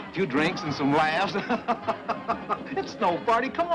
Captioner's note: Haskell laughs